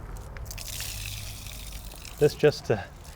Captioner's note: water splashing